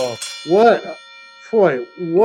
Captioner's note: bell ringing